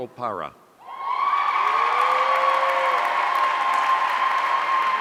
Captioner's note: audience cheering